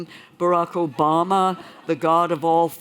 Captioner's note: laughter